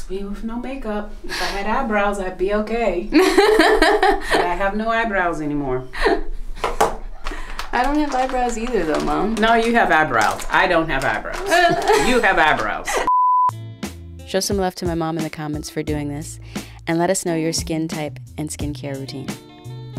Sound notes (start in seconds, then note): 3.1 daughter laughing; 11.3 daughter laughing